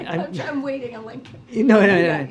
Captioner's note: laughs